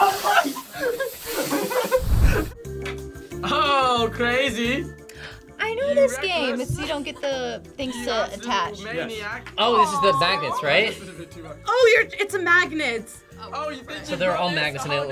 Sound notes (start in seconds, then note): 0.0 group laughs; 5.2 gasps